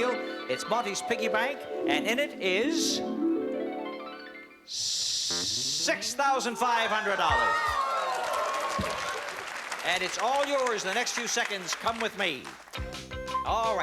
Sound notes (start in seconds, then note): 6.7 cheering and applause